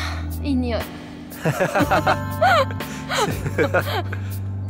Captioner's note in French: rire